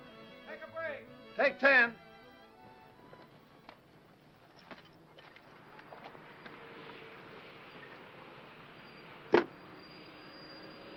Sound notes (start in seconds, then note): 5.2 vehicle approaching